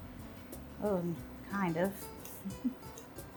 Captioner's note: laughs